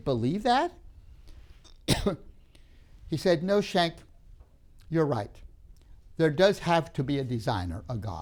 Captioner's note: coughs